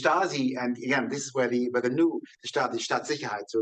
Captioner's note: speaking in foreign language